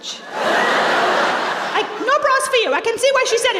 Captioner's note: laughter